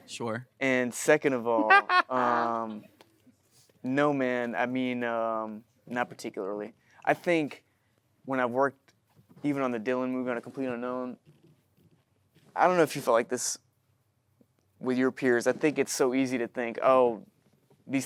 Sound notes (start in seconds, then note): 1.5 Matthew chuckles; 1.8 audience chuckling